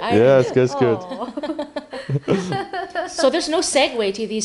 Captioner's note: all laughing lightly